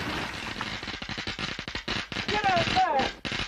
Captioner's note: electricity zapping